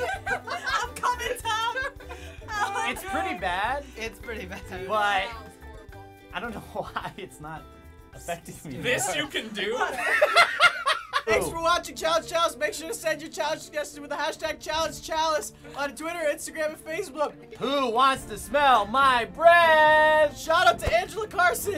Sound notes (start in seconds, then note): 9.8 laughing